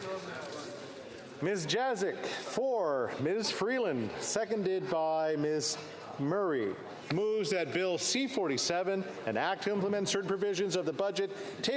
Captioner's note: some Applause